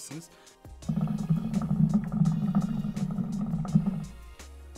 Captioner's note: hookah sound